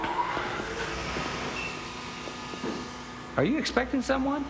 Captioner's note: elevator running